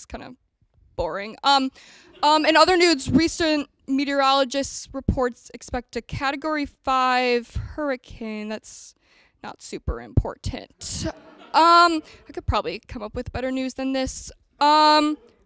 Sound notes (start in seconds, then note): 11.1 audience laughter